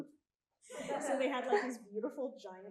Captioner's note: audience laughing